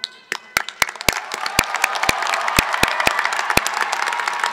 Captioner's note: everybody claps